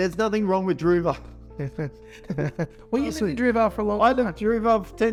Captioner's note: both chuckling